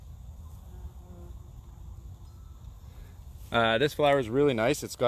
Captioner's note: bumblebee buzzing